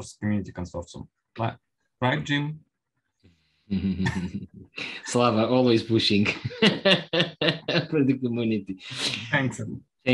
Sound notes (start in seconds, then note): 5.9 laughs